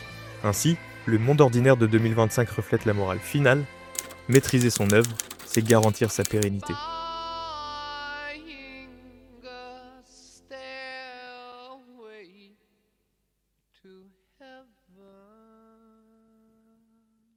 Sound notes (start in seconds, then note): 3.9 typewriter